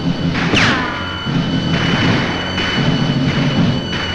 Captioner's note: guns firing